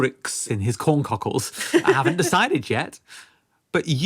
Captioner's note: laughs